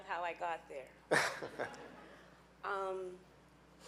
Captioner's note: laughing